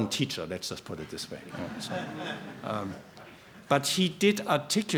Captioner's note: laughter